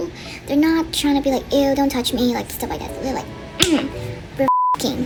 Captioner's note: smack